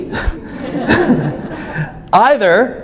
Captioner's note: audience laughs; laughs